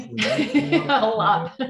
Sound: laughs

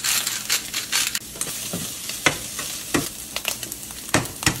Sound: spice mill grinds; skillet sizzles; egg cracks

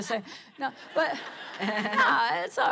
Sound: laughter

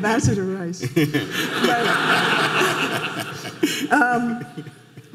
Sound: audience laughing

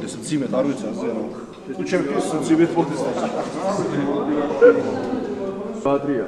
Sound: laughs

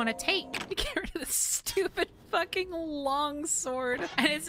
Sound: laughing

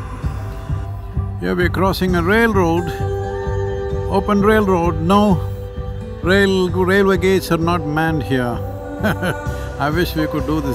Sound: laughs

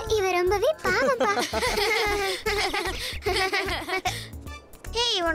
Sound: laughing

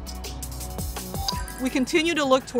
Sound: upbeat, uplifting music; computerized dinging sound

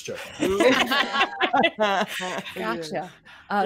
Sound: all laughing

